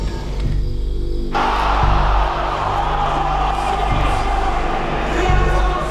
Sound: crowd exclamation

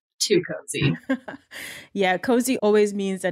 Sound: laughing

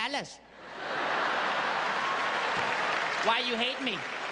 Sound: crowd laughing

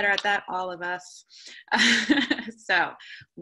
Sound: laughter

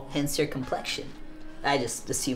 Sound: none

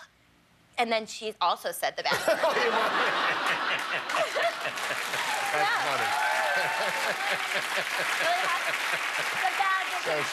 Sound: laughter

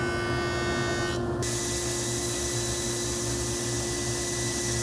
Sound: saw screeches

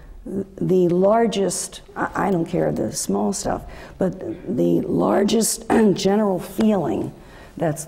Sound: cough

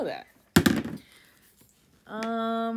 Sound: die rolling noises

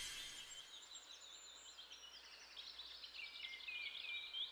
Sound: birds chirping

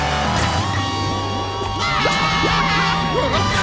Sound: screaming

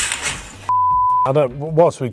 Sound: beep

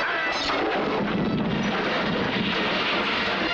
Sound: explosion

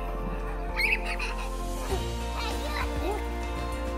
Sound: girls laughing

